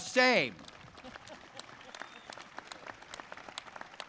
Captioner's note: audience claps